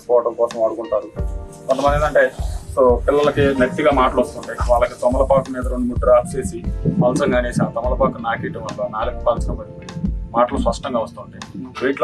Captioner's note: stuttering